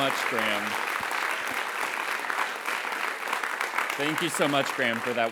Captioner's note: applause